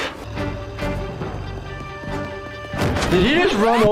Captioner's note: footsteps pattering